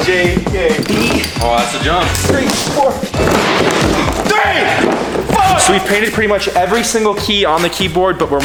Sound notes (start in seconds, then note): 3.5 footsteps; 3.5 wooden keys clatter loudly; 4.0 shouts